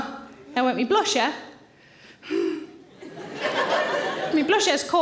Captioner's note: sighs